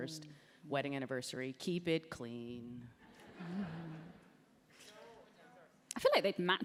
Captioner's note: laughter